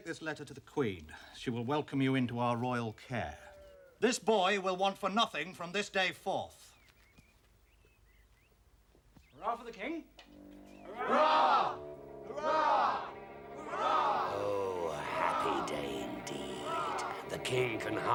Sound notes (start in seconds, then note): 7.4 birds chirping